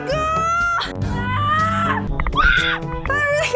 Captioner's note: screaming